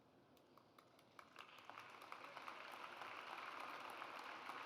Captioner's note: audience applauds